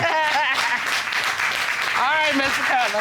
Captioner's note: audience applauding